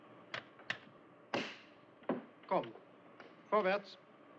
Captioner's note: German